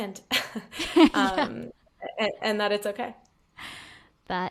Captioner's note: laughing